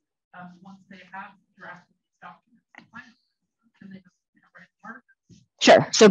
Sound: faintly speaking

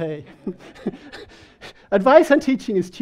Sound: people laughing

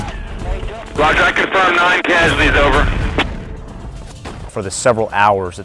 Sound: soldier talking over radio

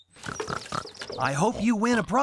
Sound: oinking!

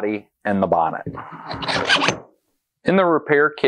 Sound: scraping

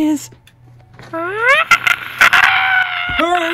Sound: amazing scream

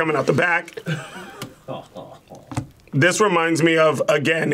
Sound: laughs

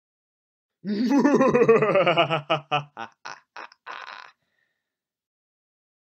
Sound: sinister laughter

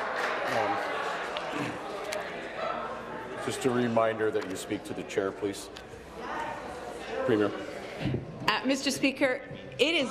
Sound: applause

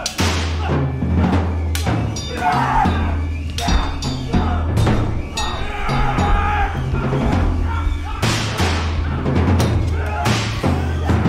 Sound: screaming, swords ping

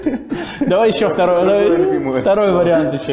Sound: voice-over

